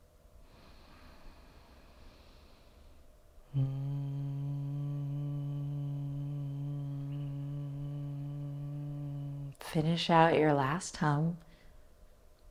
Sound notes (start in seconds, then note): 0.2 inhaling; 3.4 humming